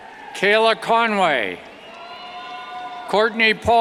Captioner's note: cheers